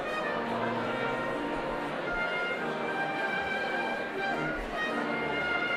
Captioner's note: crowd chattering